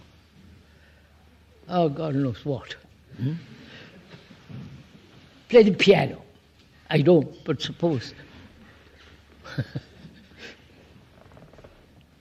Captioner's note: laughs